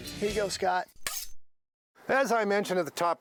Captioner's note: slicing sound